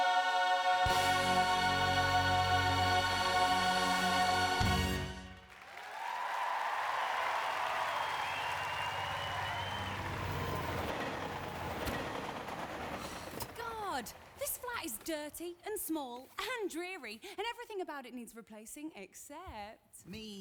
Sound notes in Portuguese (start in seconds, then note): 4.2 audience cheering and applauding